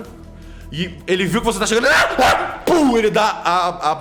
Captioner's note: arrrgh arrrgh; pow